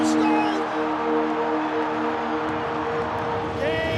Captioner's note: cheering